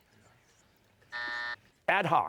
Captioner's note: buzzer